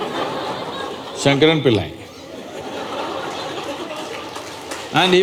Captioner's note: laughter; laughter/Applause